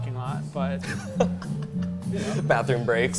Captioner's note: laughs